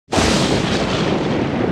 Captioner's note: thunder sound